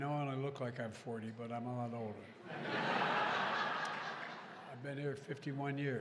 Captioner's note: laughter